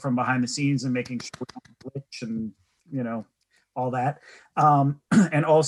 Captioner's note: clapping